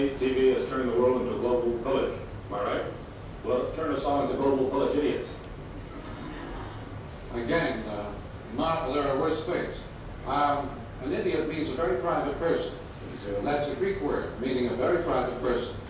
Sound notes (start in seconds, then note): 5.8 laughter